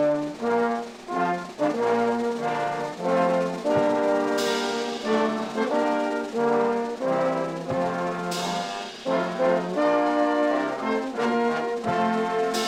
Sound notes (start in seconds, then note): none